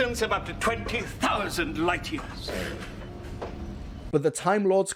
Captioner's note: scoffs